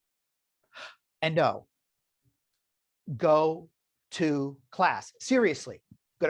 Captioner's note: gasps